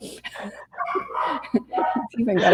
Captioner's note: laughing